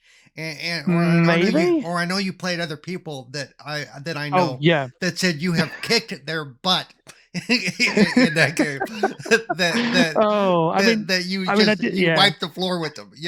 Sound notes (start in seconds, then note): 7.3 laughing